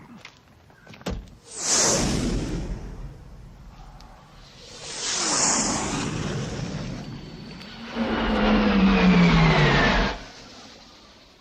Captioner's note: noise of low–flying aircraft